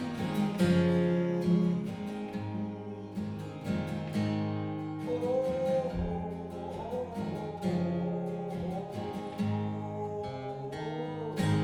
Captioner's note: humming